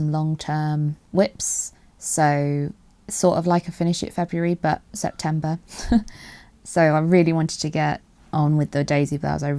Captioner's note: laughs